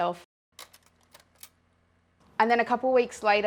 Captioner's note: clicking